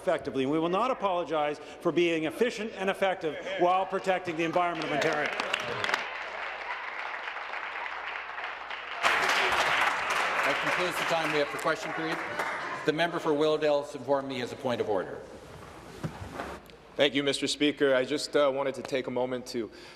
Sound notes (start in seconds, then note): 12.0 applause